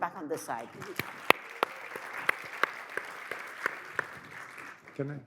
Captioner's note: audience applauds